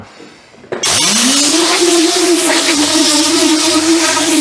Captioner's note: air dryer buzzing